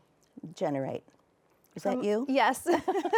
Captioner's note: both laughing